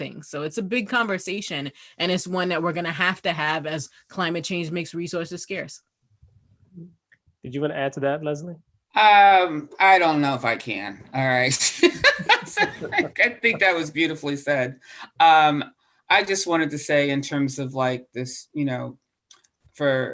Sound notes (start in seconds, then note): 11.9 laugh